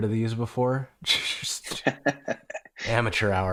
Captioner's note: laughter